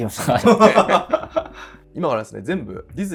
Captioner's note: laughing